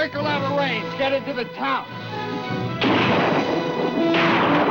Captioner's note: gunshots